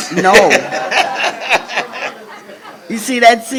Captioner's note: crowd laughs